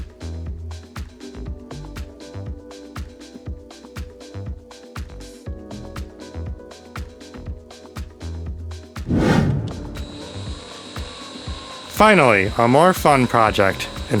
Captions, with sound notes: (Sound of drill whirring.) Finally, a more fun project: